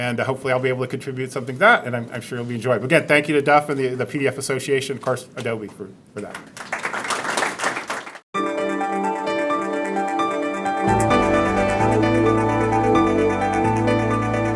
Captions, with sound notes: and hopefully I'll be able to contribute something to that and I'm sure it'll be enjoyable, again thank you to Jeff and the PDF Association and of course Adobe for that. (applause) (gentle music)